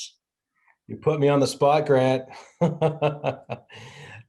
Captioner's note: laughs